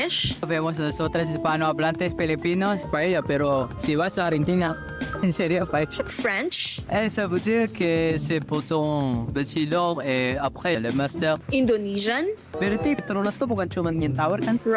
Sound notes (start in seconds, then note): 0.3 speaking Spanish; 7.0 speaking French; 12.4 speaking Indonesian